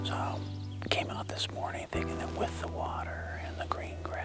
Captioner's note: whispering